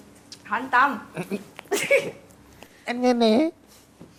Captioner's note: giggle